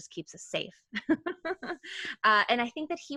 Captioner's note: laughing